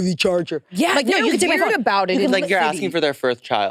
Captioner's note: participants chattering